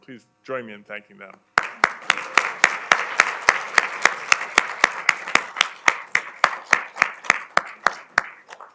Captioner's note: applause